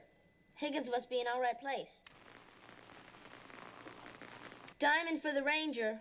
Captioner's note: static, Silence; crackling, Beeping